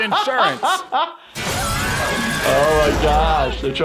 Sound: glass shatters; characters shouting

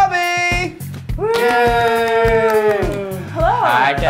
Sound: applause

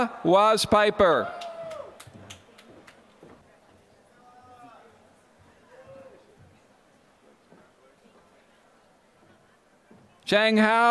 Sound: applause

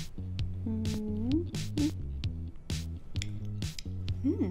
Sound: humming; chuckling

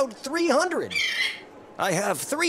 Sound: bird squawks

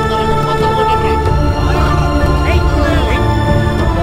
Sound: crowd noise

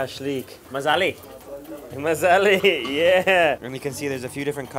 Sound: in foreign language

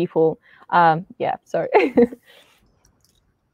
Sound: chuckles

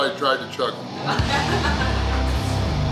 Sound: audience laughing; slow rock music

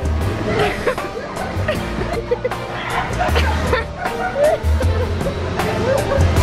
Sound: upbeat music; laughing

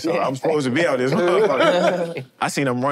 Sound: group laughs

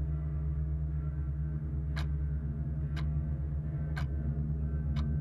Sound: clock ticking

